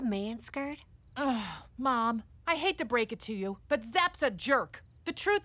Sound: sighs

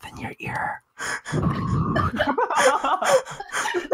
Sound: exhales

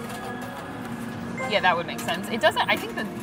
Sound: screen chimes

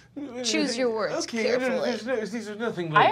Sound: stuttering

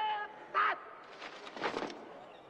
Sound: footsteps in unison; crowd murmuring

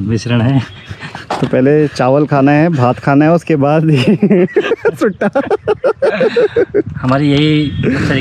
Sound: laughs

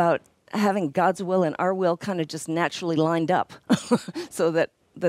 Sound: laughs

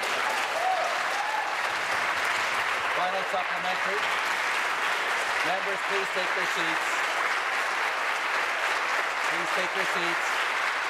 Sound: applause

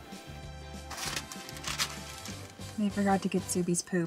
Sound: plastic rustling

